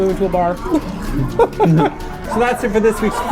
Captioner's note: both laughing at their cleverness